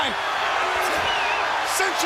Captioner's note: crowd cheering